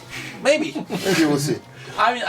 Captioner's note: laughs